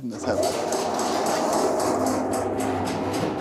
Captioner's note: loud, rolling noise